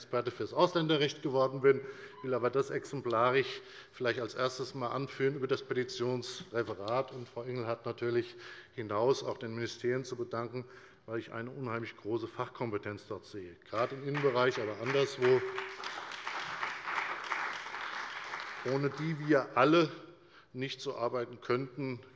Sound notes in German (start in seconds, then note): 13.7 Beifall bei der FDP und der CDU